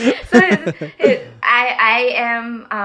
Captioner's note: people laughing